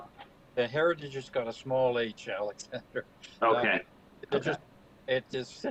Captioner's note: chuckles